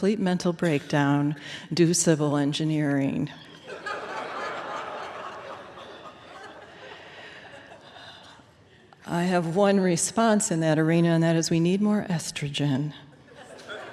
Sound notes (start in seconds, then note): 3.4 laughter